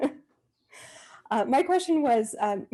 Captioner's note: laughs